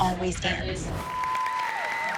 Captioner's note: cheering